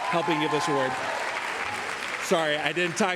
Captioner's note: cheering